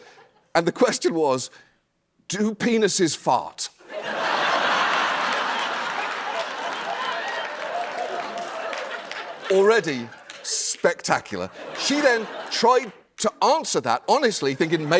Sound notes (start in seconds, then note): 3.8 laughter